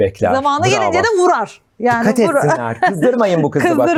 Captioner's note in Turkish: kahkaha